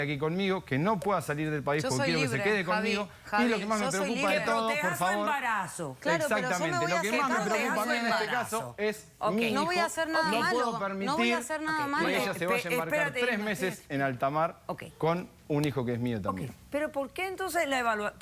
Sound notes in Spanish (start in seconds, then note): 6.2 Hablan al unísono